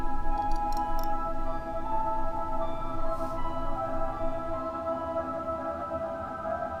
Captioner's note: light music; clicking